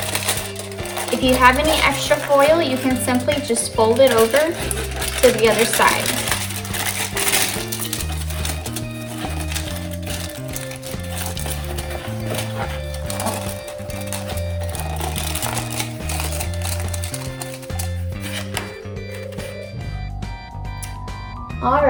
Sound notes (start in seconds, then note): 9.1 crinkling foil sounds